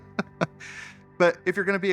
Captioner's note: laughs